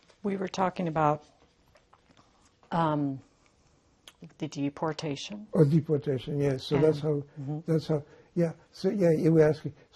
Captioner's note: none